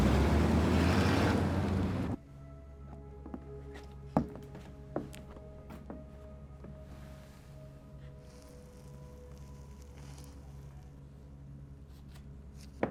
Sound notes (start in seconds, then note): 0.0 engine revs; 3.4 suspenseful dramatic music; 4.1 footsteps pattering; 8.7 doormat rustling